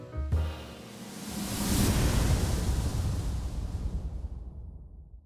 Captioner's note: graphic whooshing